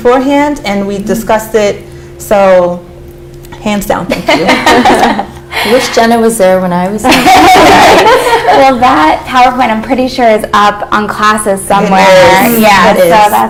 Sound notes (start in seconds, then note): 7.0 laughter